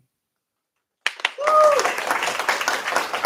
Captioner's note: cheers, applause